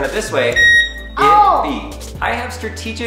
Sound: loud beep

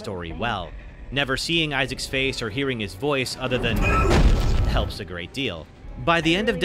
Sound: Isaac grunts

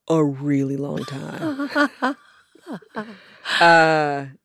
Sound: laughter

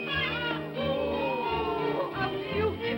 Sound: excited vocal sounds

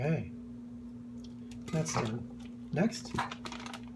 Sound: sound: package opening

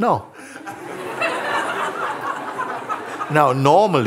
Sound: laughter

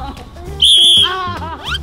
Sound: whistles

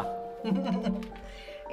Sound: giggling

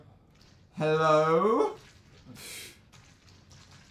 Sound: slight voice crack

